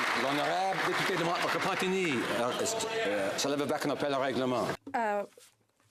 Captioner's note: applause